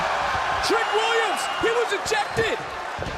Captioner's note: crowd cheers